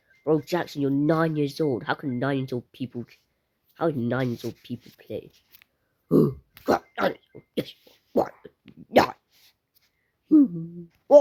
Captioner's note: sigh